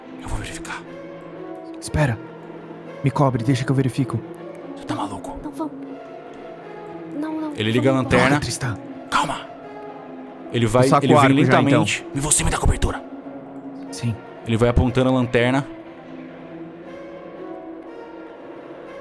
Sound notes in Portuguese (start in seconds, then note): 0.3 sussurra; 9.3 sussurra; 12.3 sussurra